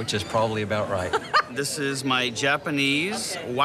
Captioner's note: laughs